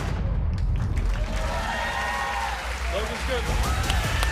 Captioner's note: cheers and applause